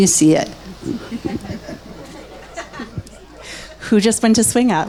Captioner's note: laughs happily